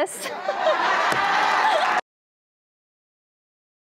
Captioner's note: audience laughs